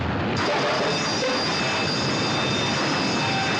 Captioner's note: clanging Continue